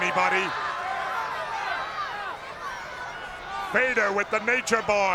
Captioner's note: crowd yelling